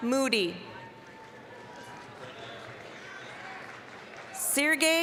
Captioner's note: applause, cheering